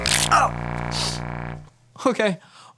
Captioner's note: bones cracking